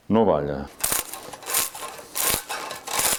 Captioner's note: sound of a cane being shaved by a tool